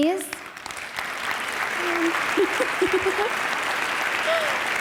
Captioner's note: audience applause